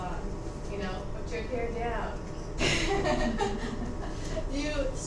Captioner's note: laughs